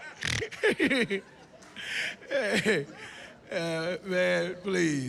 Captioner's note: laughs